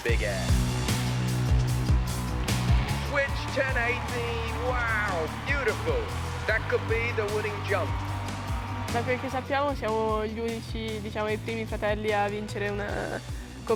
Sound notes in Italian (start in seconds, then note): 0.0 Applauso